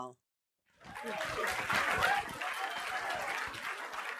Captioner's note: applause